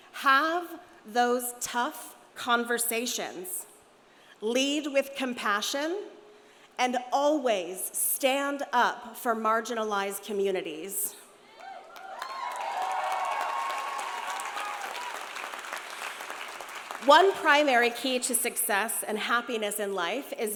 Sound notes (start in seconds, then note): 11.6 audience cheering; 11.9 audience applauding